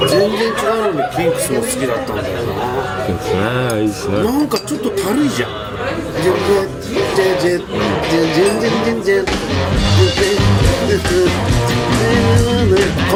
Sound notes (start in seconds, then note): 7.2 humming